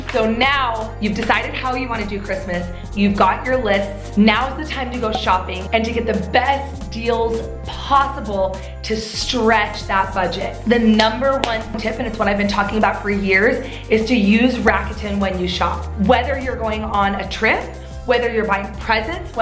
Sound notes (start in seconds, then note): 11.0 clapping hands